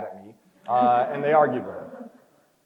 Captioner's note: crowd chuckles